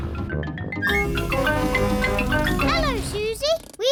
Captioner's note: horn blares